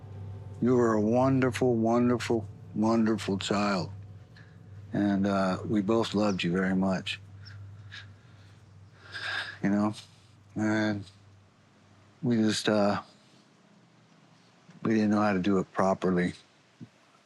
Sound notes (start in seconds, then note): 7.3 shuddering breath